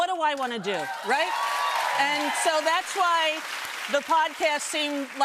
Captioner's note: cheers and applause